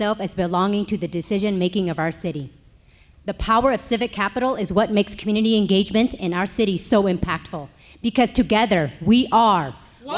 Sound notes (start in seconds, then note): none